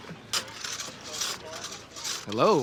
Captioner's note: workers sawing